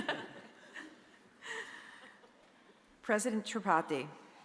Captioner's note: both chuckling